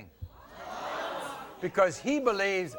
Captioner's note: crowd gasping